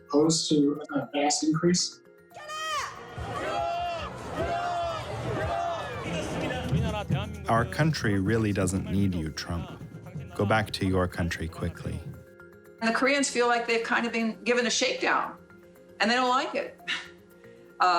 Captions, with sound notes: are opposed to a vast increase. (speaking Korean) Our country really doesn't need you, Trump. Go back to your country quickly. The Koreans feel like they've kind of been given a shakedown, and they don't like it.